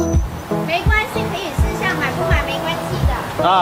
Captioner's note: Mandarin